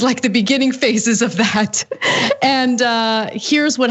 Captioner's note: laugh